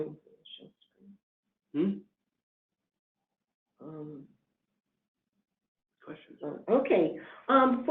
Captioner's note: pause